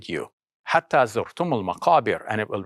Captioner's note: speaks in foreign language